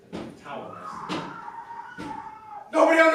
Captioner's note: screaming from off stage